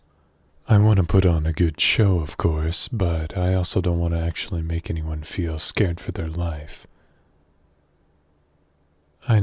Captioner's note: none